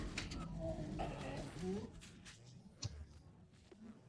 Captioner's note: Gloink Queen groaning